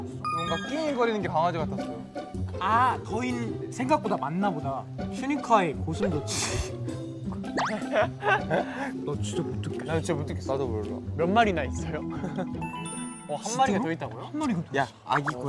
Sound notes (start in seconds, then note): 7.4 kekeke